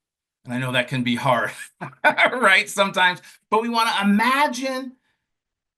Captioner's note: laughs